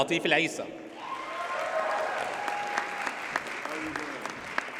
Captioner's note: audience cheers and applauds